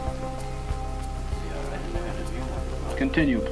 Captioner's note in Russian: шепотом